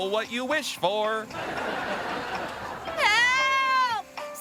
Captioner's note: audience laughing